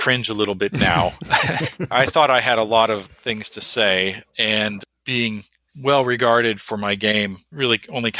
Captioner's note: laughs